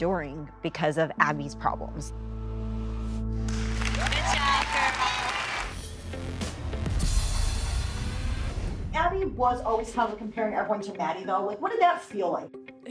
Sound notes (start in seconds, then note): 3.4 audience applauding